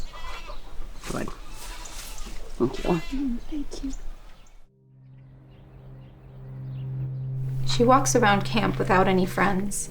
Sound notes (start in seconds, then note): 4.6 tense music; 5.5 birds chirping